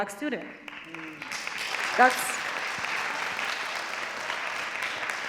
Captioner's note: audience clapping